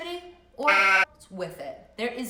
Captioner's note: sheep baaing